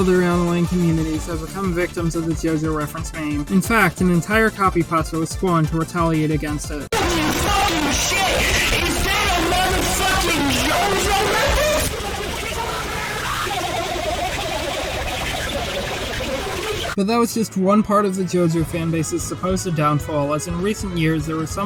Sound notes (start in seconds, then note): 11.2 incoherent screaming